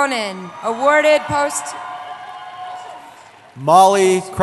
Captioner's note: cheering